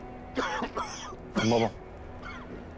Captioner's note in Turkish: Öksürük sesi